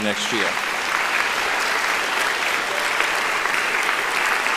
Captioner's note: applauding